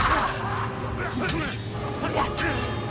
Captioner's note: grunting